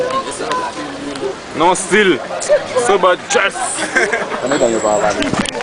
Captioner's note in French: Rires